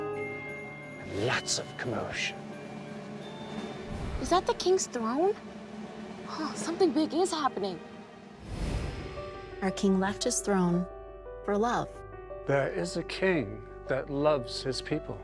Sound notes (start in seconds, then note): 2.7 music builds; 8.4 whoosh